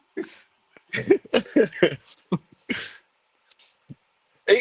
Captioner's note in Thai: เสียงหัวเราะ